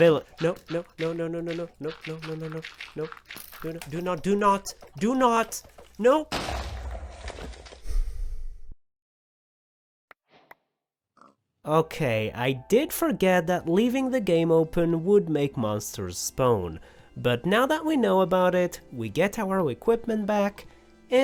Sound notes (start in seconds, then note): 7.8 sigh